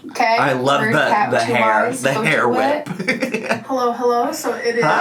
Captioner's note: laughs